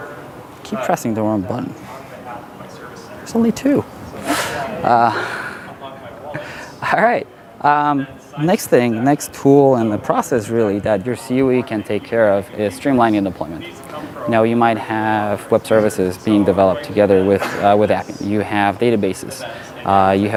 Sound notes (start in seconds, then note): 4.0 laughs